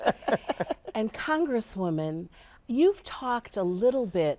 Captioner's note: all laughing